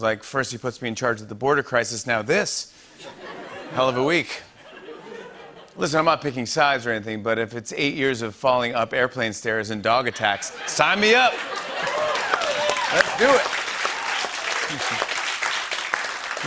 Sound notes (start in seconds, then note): 3.0 laughter; 10.0 laughter and cheering; 13.3 applause